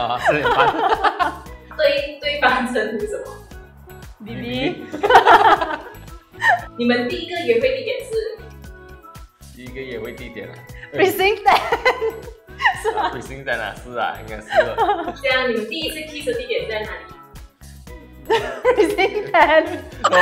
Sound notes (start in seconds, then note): 0.2 laughs; 4.9 laughs